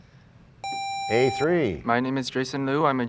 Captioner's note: sound of a buzzer